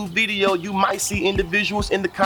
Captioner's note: birds Chirping